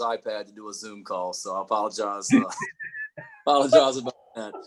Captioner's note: chuckling; laughing